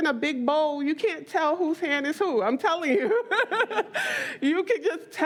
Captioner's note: laughs